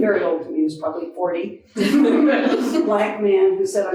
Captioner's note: audience laughing